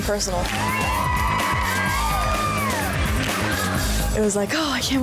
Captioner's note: energetic music; cheering